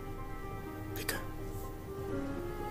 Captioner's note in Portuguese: Calmamente